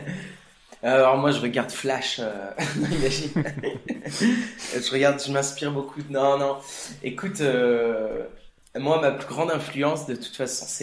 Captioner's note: laugh